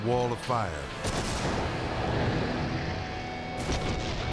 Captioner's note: explosion booming